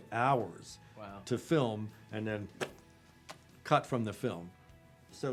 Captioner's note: spits